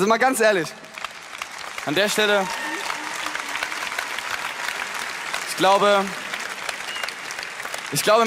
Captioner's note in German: Klatschen